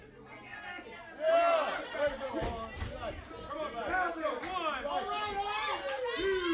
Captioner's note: crowd chatter